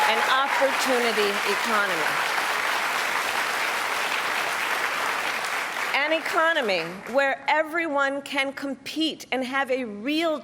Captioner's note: cheers and applause